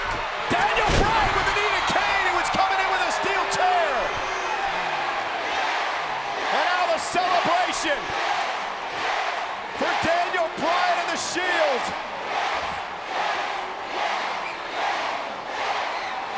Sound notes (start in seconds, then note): 4.8 audience chanting; 11.7 audience continue chanting